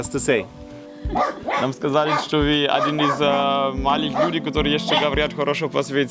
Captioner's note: Russian